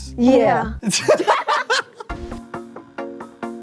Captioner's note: laughter